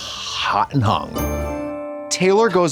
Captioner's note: bright chime